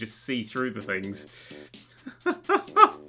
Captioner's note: laughs like Jimmy Carr